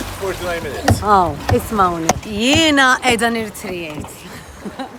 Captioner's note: laughs